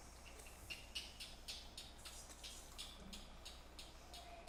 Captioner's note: insects chirp